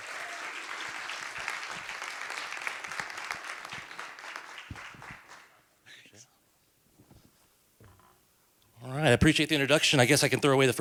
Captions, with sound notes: to welcome Jason Askew, CEO and president of North American Plastics. [APPLAUSE]